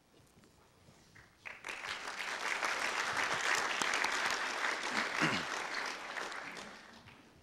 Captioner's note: audience applause